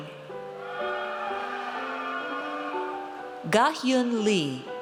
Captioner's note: audience cheers